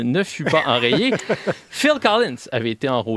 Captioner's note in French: rires